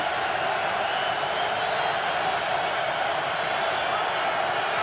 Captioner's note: cheering